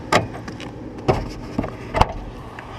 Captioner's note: hatchback opens